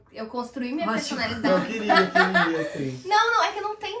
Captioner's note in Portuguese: risos